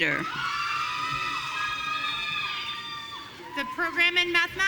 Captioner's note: audience cheering